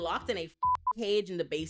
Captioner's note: beep